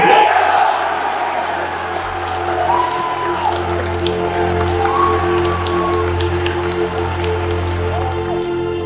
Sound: crowd cheers

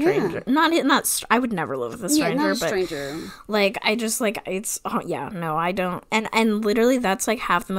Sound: stammering

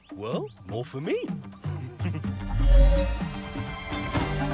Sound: chuckles

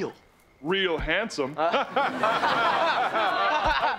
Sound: laughing

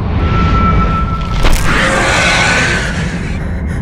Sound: creature shrieks

